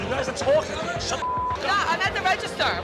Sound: beep

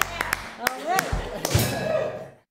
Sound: laughter

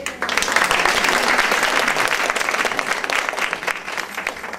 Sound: audience applauds

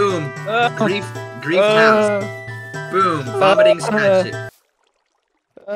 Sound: dying noises

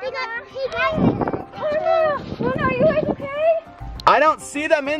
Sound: gasps

